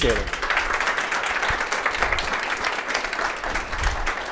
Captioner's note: applause